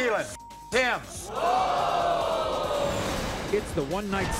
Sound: audience gasps

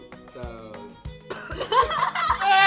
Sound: coughs

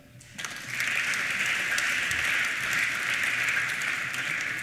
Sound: applause

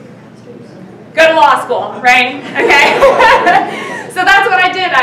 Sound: laughing

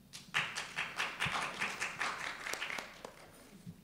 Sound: applause

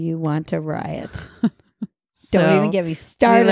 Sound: laughing

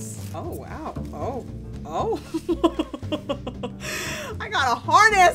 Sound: laughs

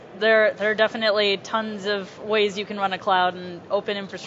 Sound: none

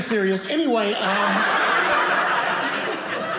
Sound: audience laughing

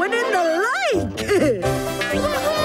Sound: laughing

